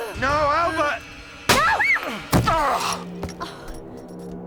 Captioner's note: groans; gunshot